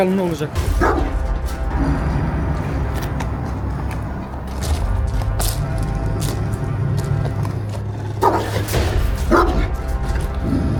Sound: barking, growling sounds and suspenseful music

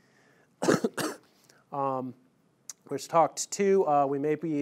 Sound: coughing

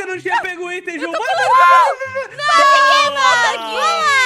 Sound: screams and talking

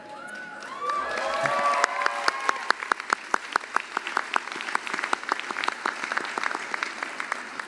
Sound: cheering and applause

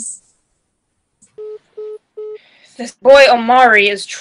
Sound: phone beeping

